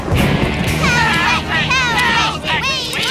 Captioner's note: thunder crashing